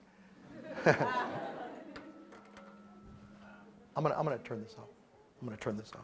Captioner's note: laugh